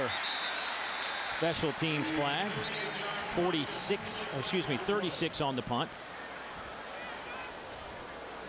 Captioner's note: crowd noise